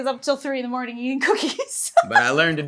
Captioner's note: laughs